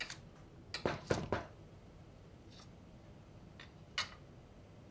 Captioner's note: knocking